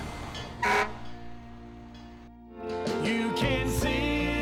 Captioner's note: horn honks